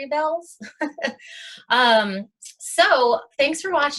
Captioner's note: laughs